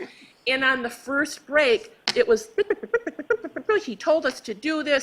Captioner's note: chirping